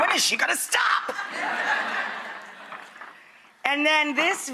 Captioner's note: audience laughs